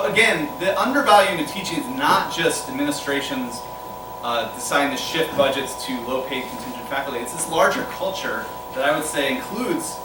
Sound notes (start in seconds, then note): none